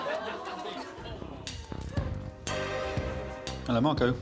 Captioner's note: audience giggling; upbeat music